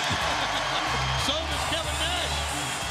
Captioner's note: Tony laughs